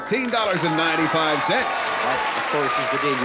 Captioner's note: applause